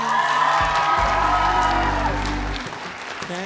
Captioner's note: applause